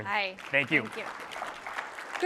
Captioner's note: applause